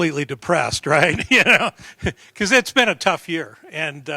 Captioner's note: laughter